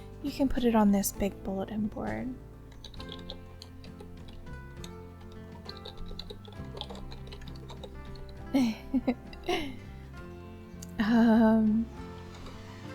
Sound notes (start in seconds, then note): 2.7 typing noises, giggle; 12.1 more typing noises